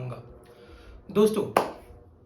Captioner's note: clap